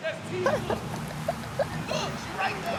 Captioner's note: laughter